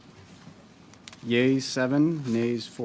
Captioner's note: speaking French